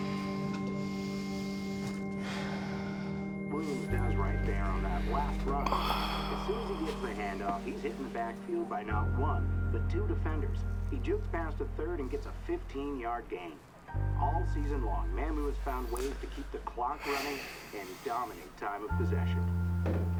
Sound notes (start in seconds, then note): 3.3 Drew sighing over muffled sportscaster dialog